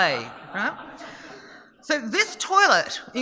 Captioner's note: audience laughing